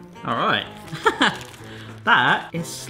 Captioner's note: laughs